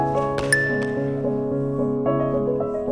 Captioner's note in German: Helles Klingeln